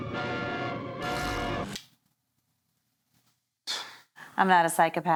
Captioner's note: gentle upbeat music; Barbara snoring